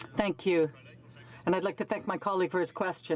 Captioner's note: speaking French